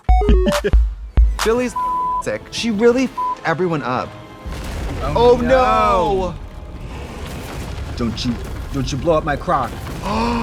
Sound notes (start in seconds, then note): 0.0 bright electronic music; 1.5 beeping; 7.2 explosion booming